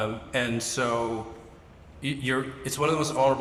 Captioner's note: none